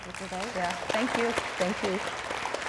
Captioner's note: audience clapping